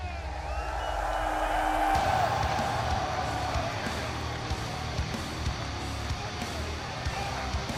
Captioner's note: cheers & applause